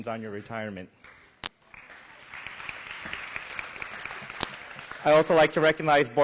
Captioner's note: applause